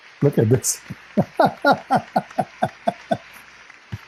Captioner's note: Ketawa